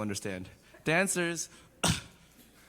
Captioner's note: cough